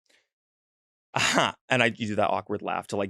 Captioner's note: laughs